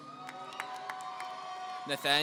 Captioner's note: audience cheering